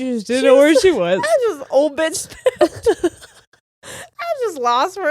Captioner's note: laughing